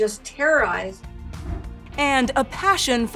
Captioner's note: air whooshing